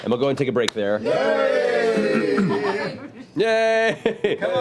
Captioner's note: cheering